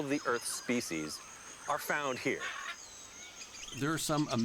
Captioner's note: screeches